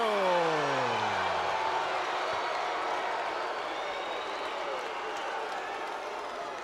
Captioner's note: spectators cheering and applauding